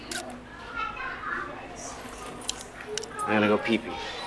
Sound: camera shutters

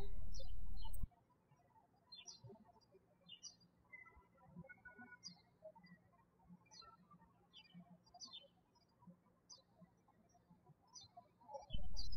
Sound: birds chirping

